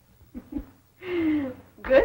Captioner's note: chuckling